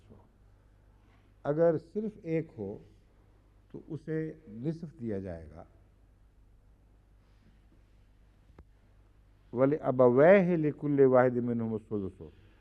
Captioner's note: Arabic; Arabic